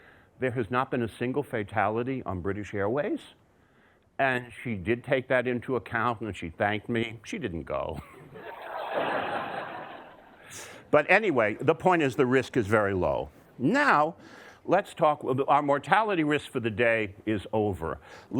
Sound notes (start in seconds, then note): 8.2 audience laughter